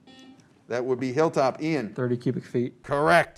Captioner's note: buzzer